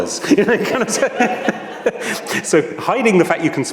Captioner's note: everyone laughs